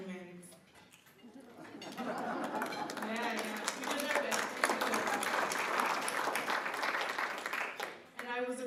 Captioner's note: laughter and clapping